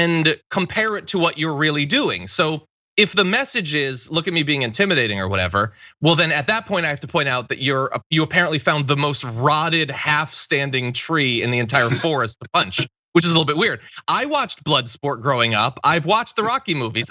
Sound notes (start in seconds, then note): 11.7 laugh